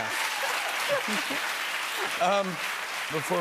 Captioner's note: applause